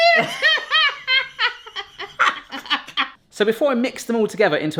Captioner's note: both laughing